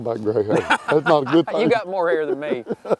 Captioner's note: laughing